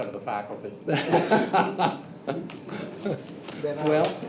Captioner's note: laughs